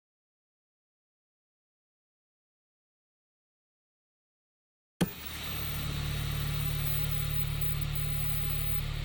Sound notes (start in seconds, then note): 5.0 remote clicks; 5.0 static buzzes